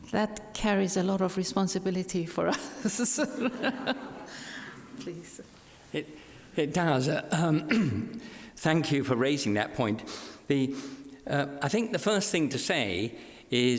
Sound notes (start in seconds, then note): 2.4 laughs; 2.8 audience laughs